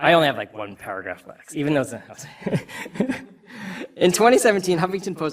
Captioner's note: laughs